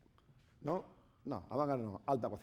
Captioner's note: speaking spanish